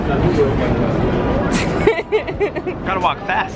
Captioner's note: laughing